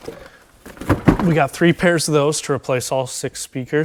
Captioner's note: box thumping